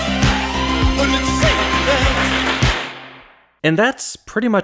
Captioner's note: bang